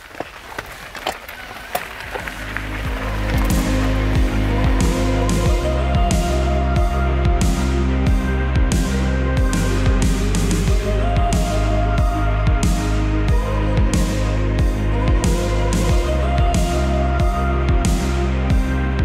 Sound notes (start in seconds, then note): 0.0 wheels going through rocks; 3.6 dramatic music